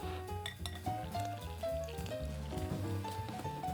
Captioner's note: water pouring